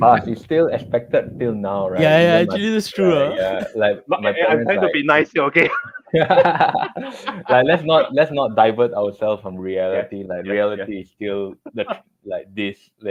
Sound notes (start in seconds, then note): 5.6 laughter